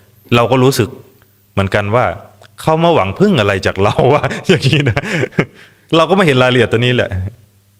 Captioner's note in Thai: เสียงหัวเราะ